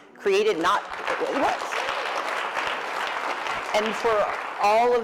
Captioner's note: applause